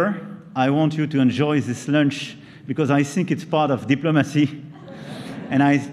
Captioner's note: laughter